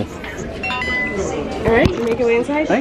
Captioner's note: device beeping